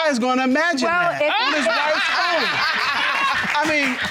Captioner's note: audience laughing